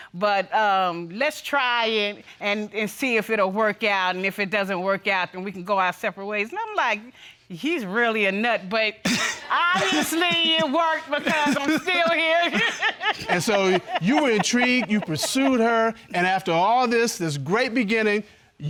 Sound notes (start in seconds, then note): 12.3 laughing